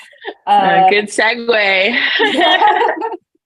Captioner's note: laughs